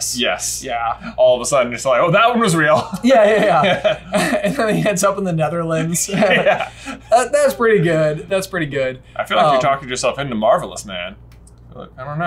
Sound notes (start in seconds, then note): 2.7 both laugh